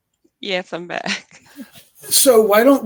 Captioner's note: chuckling